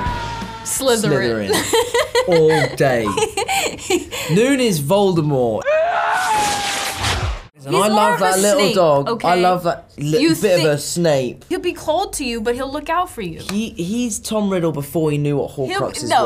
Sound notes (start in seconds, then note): 0.0 hard rock music; 3.5 laughs; 5.7 yelling